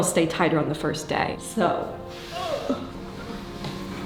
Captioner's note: grunts